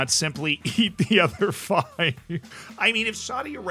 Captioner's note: laughs